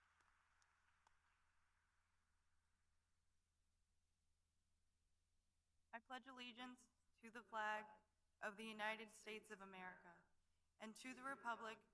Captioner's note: applause